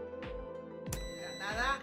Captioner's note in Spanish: sonido: piiiiii